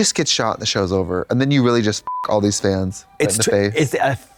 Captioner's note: beep